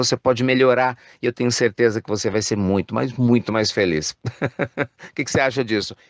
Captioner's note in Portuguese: risos